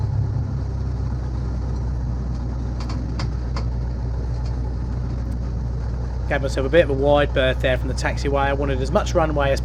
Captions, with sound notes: (cabin creaking) Got myself a bit of a wide berth there from the taxiway.